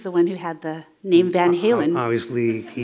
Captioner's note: laughter